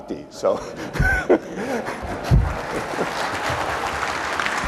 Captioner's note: applause